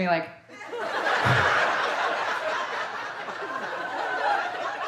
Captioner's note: audience laughing